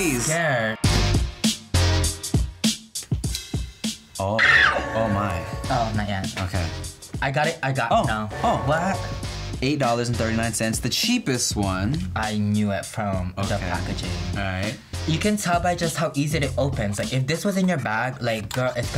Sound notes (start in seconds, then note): 0.0 intense hip-hop music; 4.3 Bretman screams